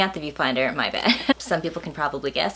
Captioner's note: laughs